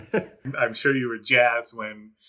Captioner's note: laughs